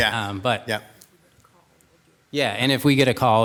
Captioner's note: whispering